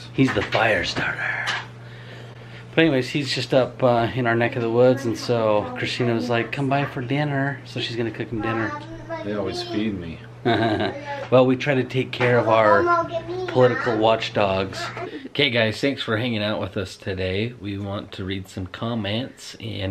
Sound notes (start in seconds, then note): 10.4 laughs